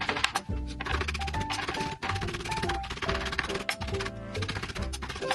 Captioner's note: new cutting board ASMR